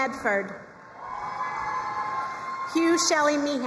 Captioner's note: crowd cheering and applauding